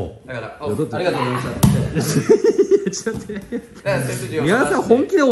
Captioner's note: laughs